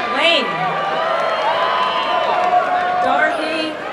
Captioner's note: applause and cheering